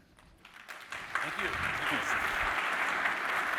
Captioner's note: applause